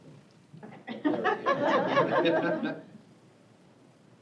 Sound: laughter

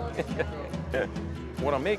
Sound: laughter

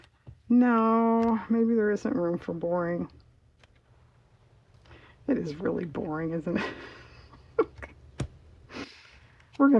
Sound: laughs

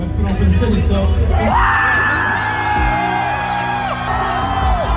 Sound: people clamoring

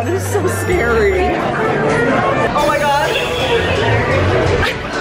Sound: laughs

